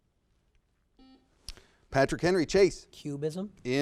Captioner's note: buzzer